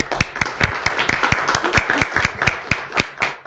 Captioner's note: applause